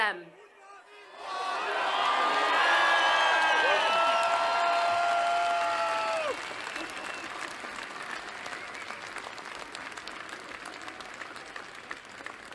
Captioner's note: applause